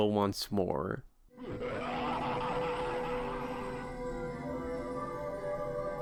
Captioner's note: ghadius manically laughing